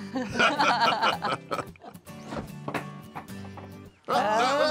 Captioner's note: everyone laughs